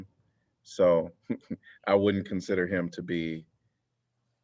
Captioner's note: laughter